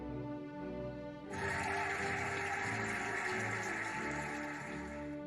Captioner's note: cheering and applauding